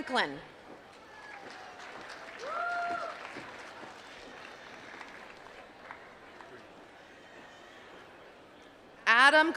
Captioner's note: applause